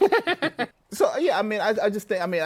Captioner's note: laughs